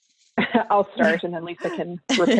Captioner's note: laughing